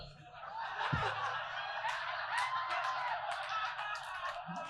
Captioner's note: audience laughing